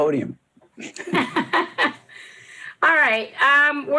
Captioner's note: laughs